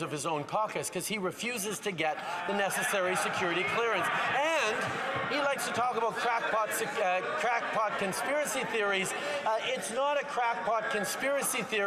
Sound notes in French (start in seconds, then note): 1.1 applaudissements; 2.8 voix de l'interprète